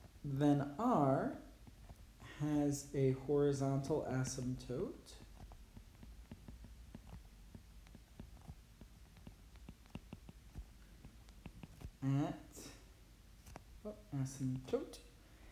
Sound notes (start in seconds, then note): 5.1 writing